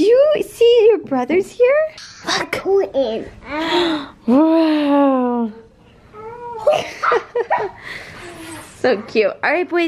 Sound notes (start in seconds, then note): 6.6 laughing